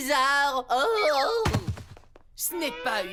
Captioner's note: woozy moans, lands with thud